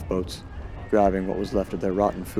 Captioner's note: crew panic